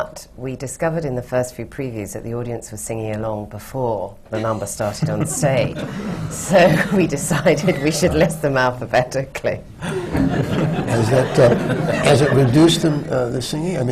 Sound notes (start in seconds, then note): 6.1 laughter